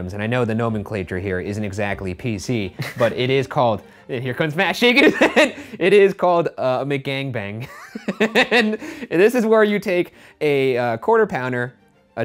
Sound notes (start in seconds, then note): 7.7 laughing